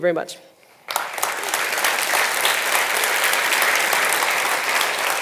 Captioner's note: audience applauding